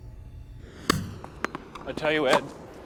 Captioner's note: popping